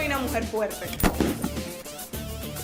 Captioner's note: gun fired